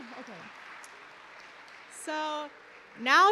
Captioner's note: applause